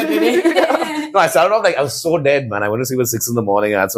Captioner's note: laughs